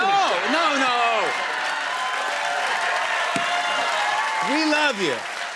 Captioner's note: cheers and applause